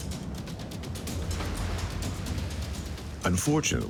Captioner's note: dramatic music; water splashing